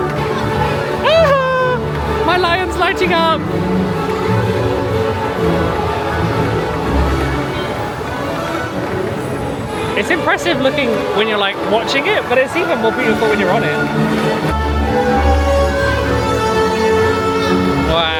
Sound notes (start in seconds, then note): 1.1 squeals; 14.5 exciting music